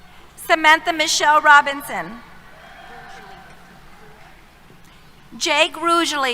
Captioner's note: cheers